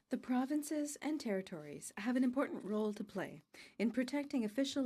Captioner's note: speaking in french